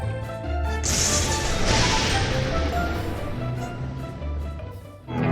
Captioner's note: lightening booms